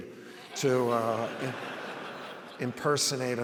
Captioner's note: audience laughs